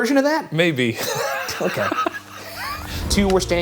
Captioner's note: laughs